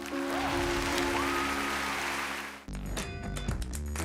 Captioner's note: applause